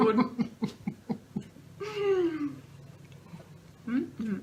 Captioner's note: laughter